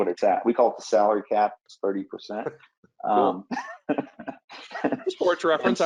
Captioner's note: laughs